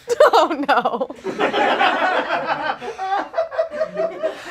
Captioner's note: audience laughs